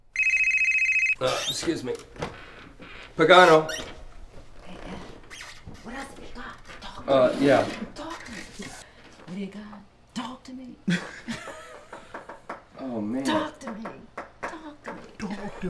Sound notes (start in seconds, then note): 0.1 phone rings; 10.8 both laughing